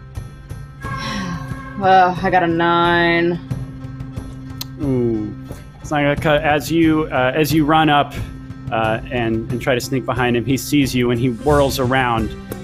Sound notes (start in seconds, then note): 0.9 exhales loudly